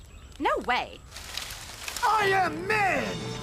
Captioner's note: leafs Rustling